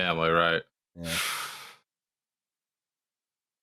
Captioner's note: breathes out audibly